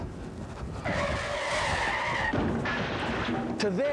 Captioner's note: <i> tires screeching</i>